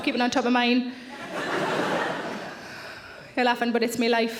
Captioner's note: audience laughing